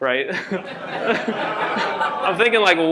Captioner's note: laughter